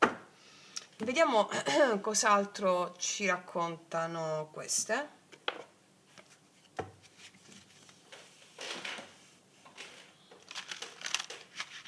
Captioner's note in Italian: schiarire la voce